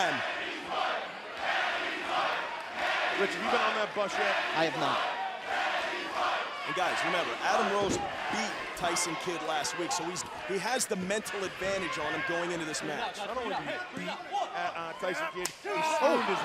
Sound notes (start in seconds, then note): 3.5 fans chanting